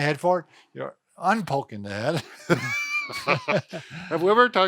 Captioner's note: both laughs